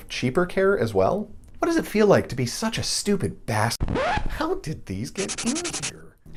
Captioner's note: record scratch; erasing sound effect